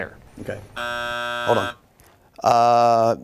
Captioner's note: buzzer